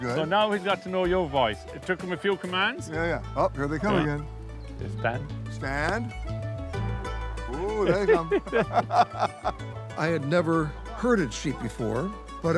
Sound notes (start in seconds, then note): 7.8 both laugh